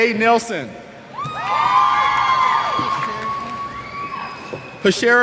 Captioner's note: cheers